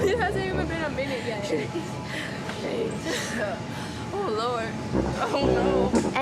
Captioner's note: panting